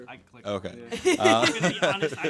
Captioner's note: laughing